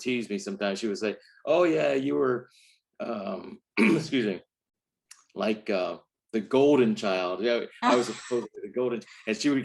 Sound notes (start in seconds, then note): 3.7 coughs; 7.8 laughs